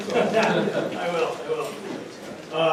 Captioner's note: audience laughing